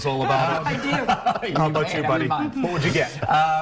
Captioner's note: laughter